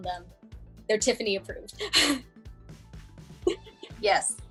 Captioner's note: giggling